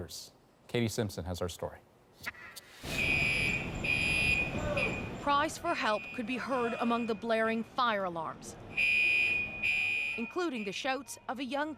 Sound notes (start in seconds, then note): 8.7 alarm